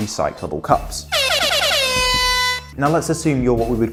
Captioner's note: air horn sound effects